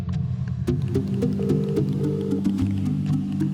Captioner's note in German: Telefon-Anklopfton